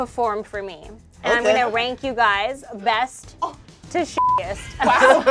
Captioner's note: beep; group laughs